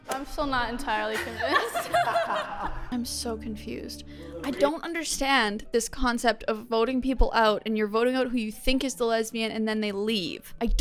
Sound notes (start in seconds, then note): 1.1 laughter